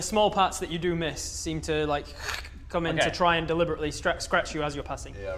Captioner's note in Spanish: crrkch